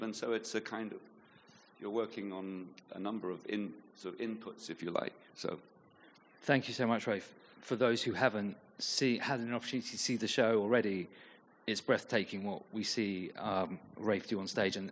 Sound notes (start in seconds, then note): none